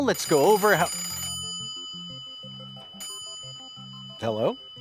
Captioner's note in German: Telefon klingelt